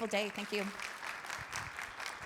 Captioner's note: attendees applauds